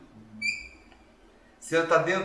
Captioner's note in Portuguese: murmúrio de afirmação